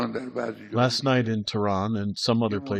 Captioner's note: through translator